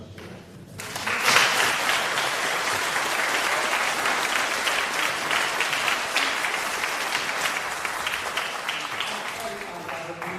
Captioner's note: applause